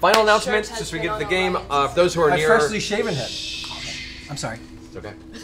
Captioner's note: shushing noises